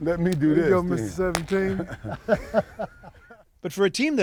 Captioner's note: laughter